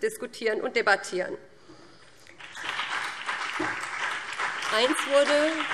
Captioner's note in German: Beifall BÜNDNIS 90/DIE GRÜNEN und CDU